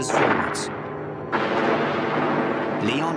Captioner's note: booming